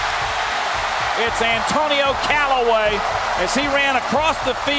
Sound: voiceover

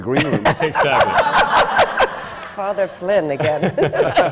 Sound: laughter

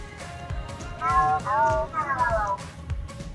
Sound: robotic mumbling

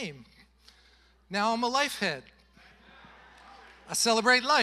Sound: congregation laughing

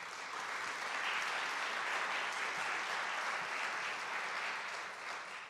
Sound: audience clapping

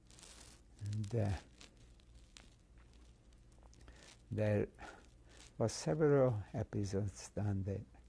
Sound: pauses for 3 seconds

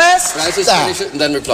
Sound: applause

